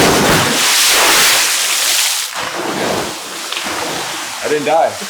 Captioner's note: water splashes on contact